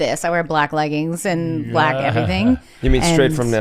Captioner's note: laughs